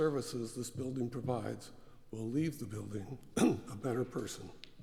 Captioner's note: cough